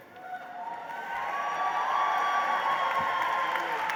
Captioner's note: applause